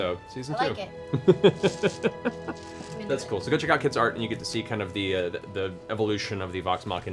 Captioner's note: laughs